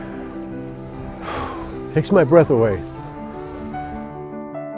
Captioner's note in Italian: Sospira